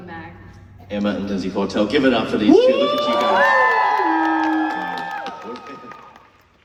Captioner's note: crowd cheers